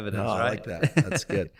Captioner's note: chuckling